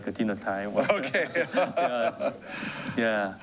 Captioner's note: laughs